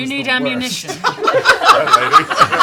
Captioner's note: laughter